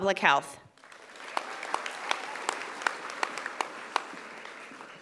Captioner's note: audience applauding